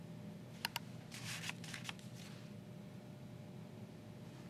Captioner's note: keys clicking